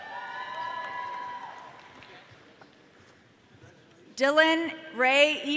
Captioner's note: audience cheering